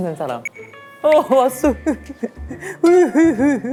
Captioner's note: sob